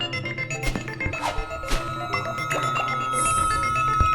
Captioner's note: graphics whooshing